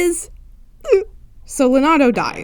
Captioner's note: sob